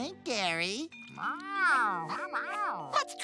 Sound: pleased noises

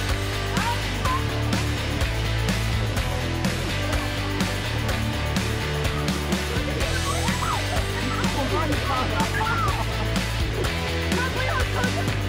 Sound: screaming

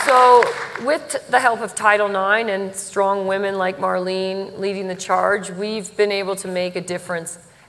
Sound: applause

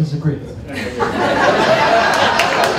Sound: laughter

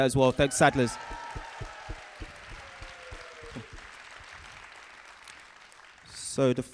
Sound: cheering and applause from the audience

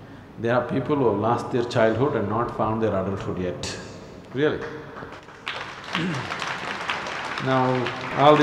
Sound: applause

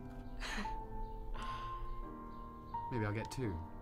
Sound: chuckles

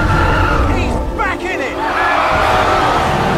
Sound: cheering

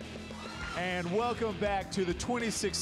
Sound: instrumental rock music; applause and cheers

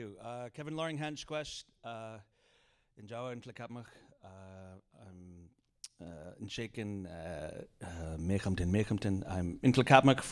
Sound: speaking in Indigenous language; speaking in Indigenous language

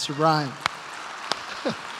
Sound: applause

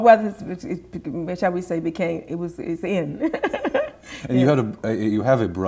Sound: laughs

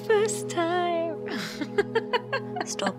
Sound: giggling

